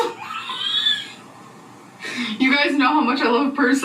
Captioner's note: laughing